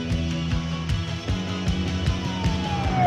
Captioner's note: siren wailing